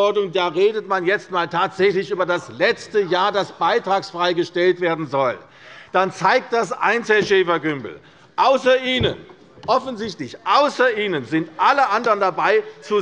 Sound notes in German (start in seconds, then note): none